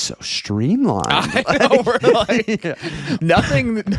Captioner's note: laughing